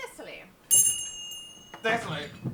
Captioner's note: bell rings